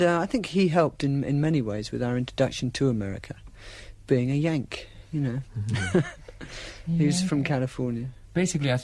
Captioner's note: laughter